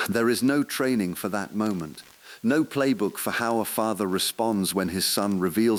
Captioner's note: exhale